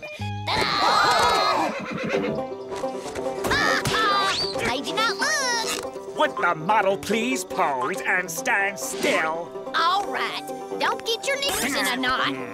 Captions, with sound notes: Ta-da! [others gasping] [neighing] Ha ha. Made ya not look. Would the model please pose and stand still? All right. Don't get your knickers in a knot.